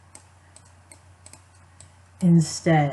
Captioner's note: clicking